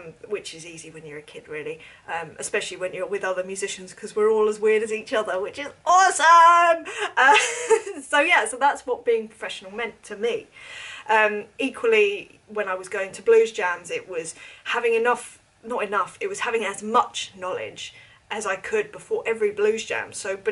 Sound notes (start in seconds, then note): 6.8 chuckles